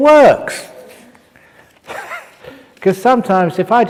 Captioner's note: laughs; chuckle